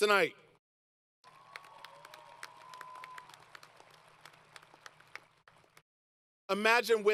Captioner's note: applause